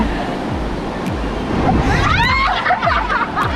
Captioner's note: girls screaming